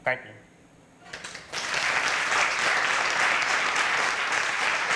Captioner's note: applause